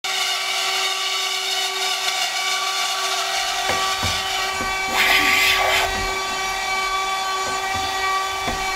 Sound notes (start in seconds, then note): 2.3 sounds of sawing